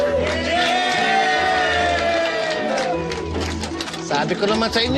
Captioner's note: cheering